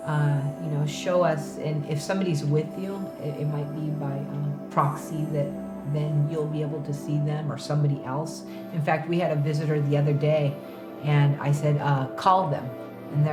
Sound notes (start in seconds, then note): none